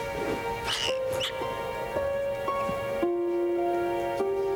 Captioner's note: rat squeaks